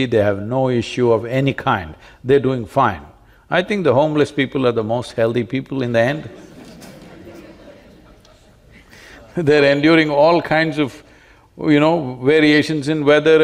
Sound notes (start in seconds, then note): 6.2 laughter